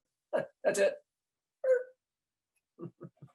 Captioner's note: laughing